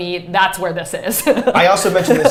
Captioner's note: laughs